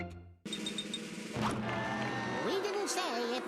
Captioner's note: crowd jeering